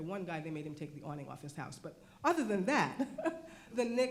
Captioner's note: laughs